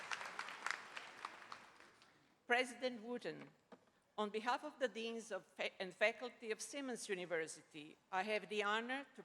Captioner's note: applause